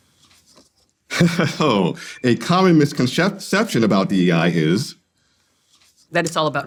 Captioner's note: laughs